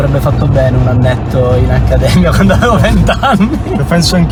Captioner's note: laughter